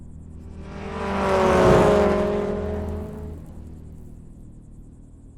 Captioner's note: car engine rumbling